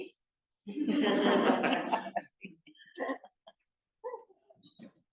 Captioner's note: laughter